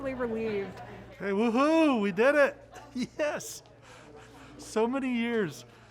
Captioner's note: chuckles